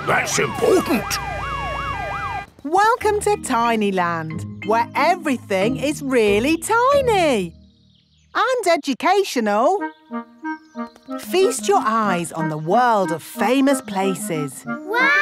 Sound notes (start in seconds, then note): 0.0 sirens wailing